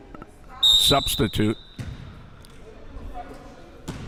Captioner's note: whistle chirping